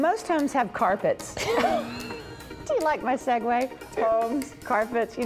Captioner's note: laughs